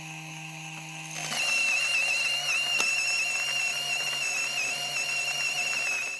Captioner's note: grinder humming; grinder grinding